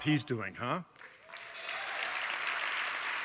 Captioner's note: applause